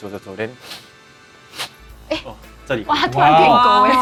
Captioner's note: sniff sniff